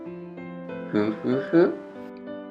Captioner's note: chuckling